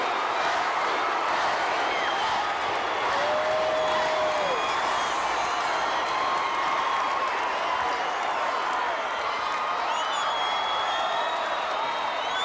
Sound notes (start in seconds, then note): 7.5 audience cheering continues